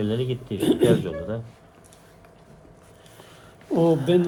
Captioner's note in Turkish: boğazını temizler